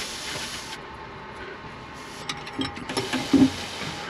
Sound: wrench sounds

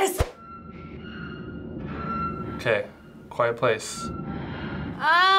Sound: eerie creaking

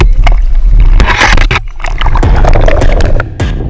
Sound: water gurgling

